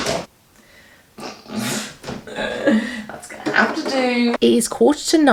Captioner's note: laughs